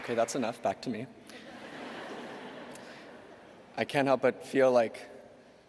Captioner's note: laughter